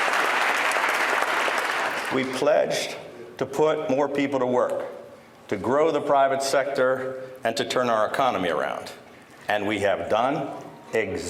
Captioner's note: applause